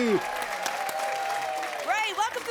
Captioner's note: applause